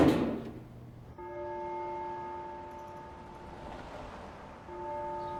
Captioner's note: church bell ringing